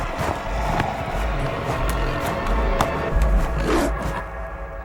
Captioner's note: Yvonne growls